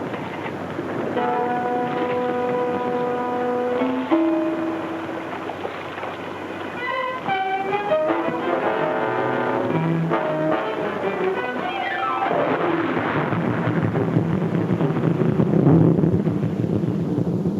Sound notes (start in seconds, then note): 1.7 tense music; 1.7 water laps; 7.3 dramatic music; 12.5 water splashes; 12.7 intense pounding music